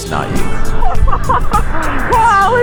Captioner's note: laughs